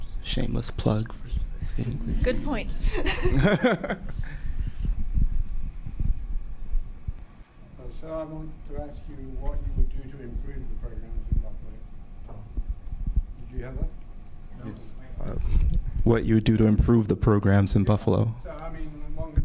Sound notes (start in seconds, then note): 2.8 audience laughing; 10.2 speaking faintly